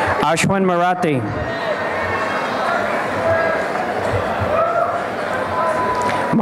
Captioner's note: applause and cheering